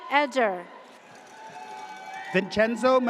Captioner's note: audience cheers